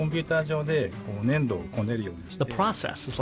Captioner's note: speaking in foreign language